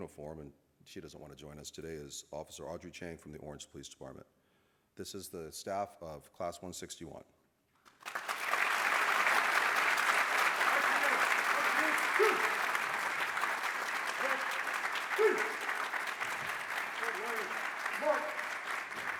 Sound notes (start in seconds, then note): 8.1 applause